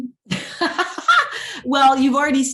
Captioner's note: laughs